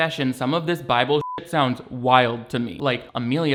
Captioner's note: beeps